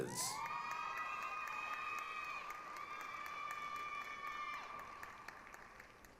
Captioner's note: applause, cheering